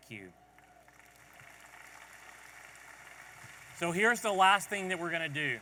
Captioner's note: audience applauding